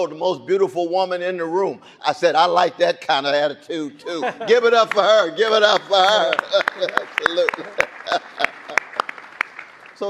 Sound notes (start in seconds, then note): 8.1 laughs; 8.7 audience applauding